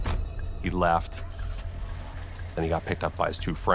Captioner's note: car engine starts